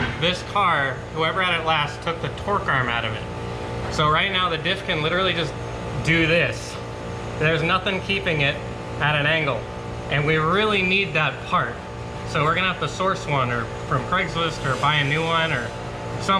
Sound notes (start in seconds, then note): none